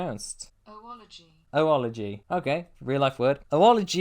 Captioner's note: computer voice: oology